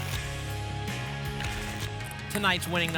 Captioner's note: tickets shuffling